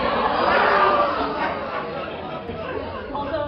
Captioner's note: laughter